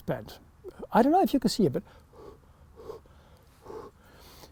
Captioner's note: blows